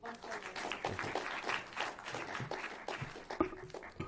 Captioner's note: applause